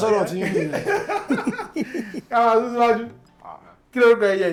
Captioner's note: laughs